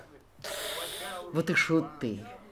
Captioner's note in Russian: стон